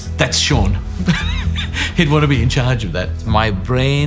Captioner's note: chuckling